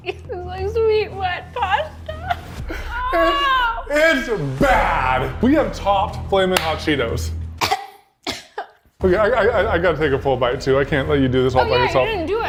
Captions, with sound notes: It's like sweet wet pasta.(laughs) It's bad we have topped flaming hot cheetos. (coughs) I got to take a full bite too. I can't let you do this all by yourself.